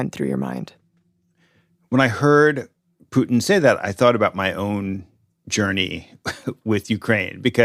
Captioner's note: chuckles